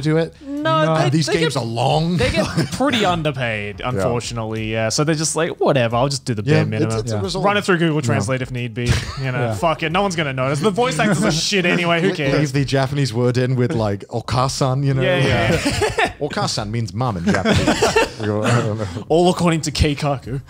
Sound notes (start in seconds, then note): 13.9 in foreign language; 17.2 laughs; 17.9 murmurs